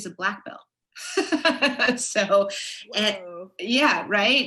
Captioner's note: laughs